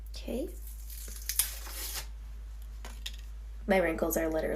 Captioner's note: peeling